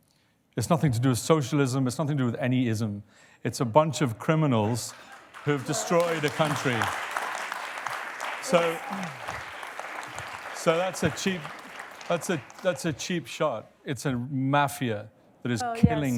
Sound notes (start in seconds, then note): 6.6 applause